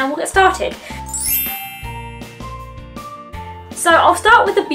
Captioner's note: bell transition sound effect